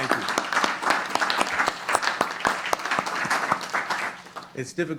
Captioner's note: applause